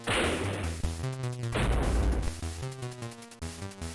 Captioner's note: thud